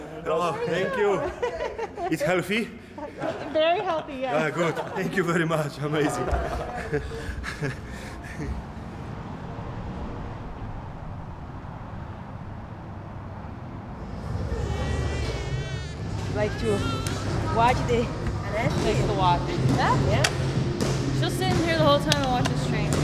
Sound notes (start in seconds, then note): 11.1 traffic; 14.1 baby crying